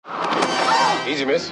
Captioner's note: yell